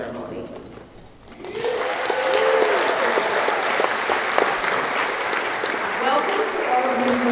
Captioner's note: applause